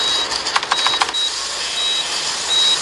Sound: keyboard clacking

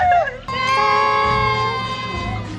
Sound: cheers

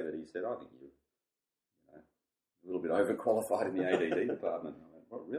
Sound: both laugh

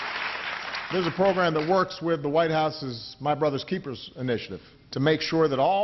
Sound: applause

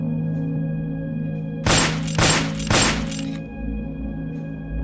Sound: gunfire

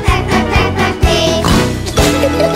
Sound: snort snort

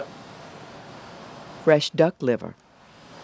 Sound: voiceover

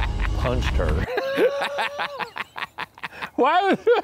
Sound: laughing

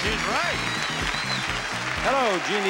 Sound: crowd clapping

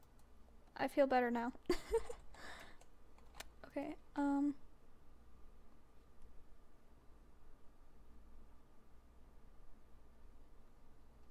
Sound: chuckle

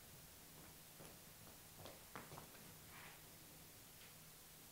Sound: quick, small footsteps

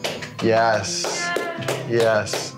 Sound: calm music; person clapping

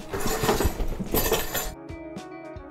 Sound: objects in bag rattle

